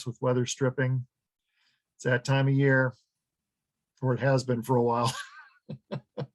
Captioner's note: laughs